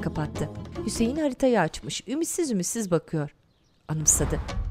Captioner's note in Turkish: Kuş sesleri